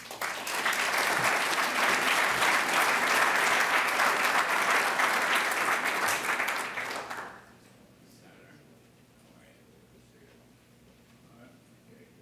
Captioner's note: applause